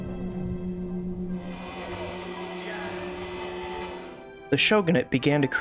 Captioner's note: clanging bells